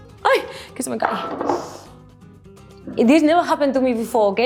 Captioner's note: speaks in Spanish